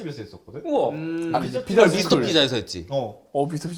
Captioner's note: confident